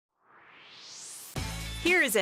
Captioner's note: swoosh